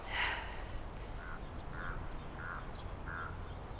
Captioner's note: sighs